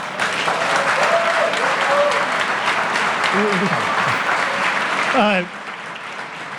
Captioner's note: audience applause